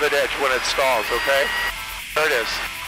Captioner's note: stall warning horn sounds